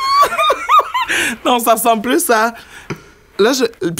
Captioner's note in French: éclat de rire